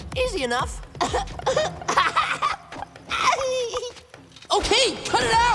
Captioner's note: Sokka laughing